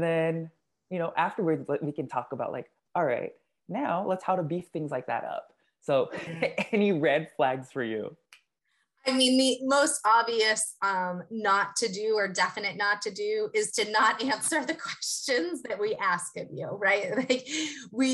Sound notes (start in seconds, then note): 6.0 laugh; 13.9 laugh